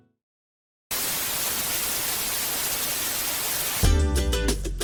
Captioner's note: TV static buzzing; upbeat music